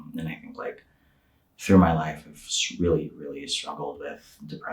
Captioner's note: none